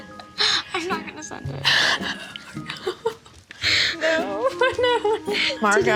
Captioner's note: chuckles